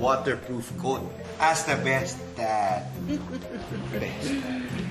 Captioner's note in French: chuckles